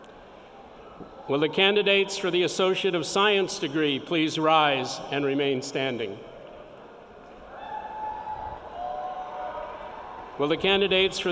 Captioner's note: cheering